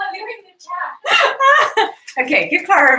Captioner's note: laughs